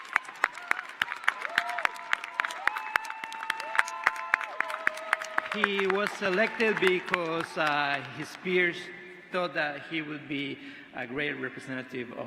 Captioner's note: cheers and applause